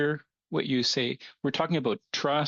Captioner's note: speaking French